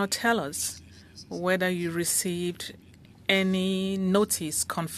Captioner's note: speaking French